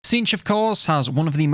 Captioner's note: voiceover